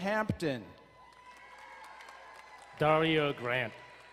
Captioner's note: crowd cheering and applauding